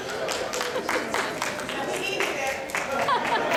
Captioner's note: applause